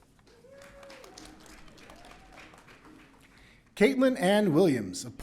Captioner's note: audience cheering